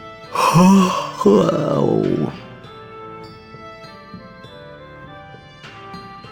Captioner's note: yawn